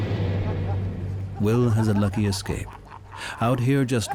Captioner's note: divers laughing